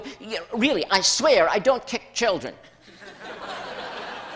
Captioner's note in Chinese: 笑聲